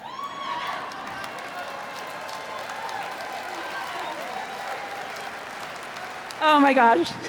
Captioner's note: cheers